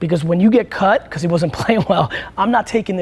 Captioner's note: laughs